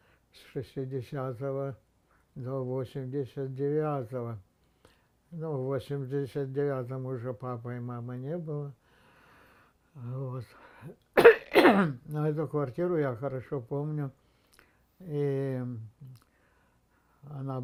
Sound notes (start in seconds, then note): 11.1 coughing